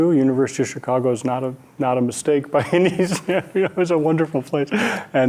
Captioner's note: laughing